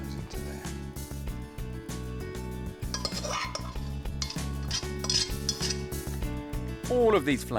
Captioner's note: gentle upbeat music; pan clanging